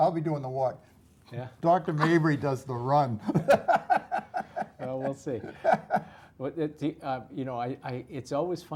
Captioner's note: laugh